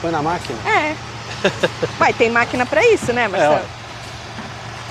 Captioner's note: chuckles